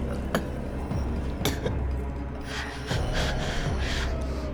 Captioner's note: Claire gasping